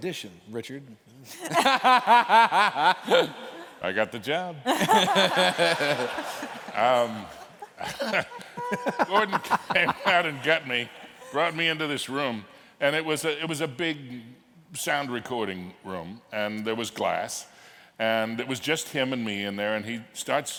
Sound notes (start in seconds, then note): 8.4 laughter